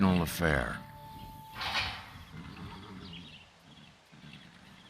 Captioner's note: gate clanks